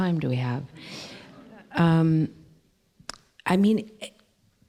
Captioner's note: laughter